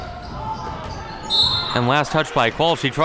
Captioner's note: whistle blows